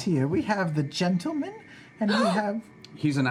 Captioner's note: gasp